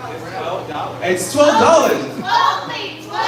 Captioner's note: crowd in unison